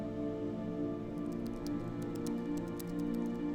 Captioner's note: computer typing